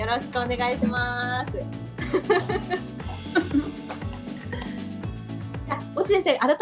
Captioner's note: laughter